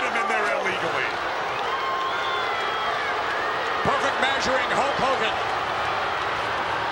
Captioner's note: applause